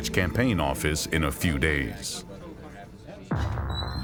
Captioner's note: people chattering; tense music